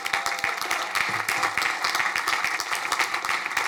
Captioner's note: crowd applauding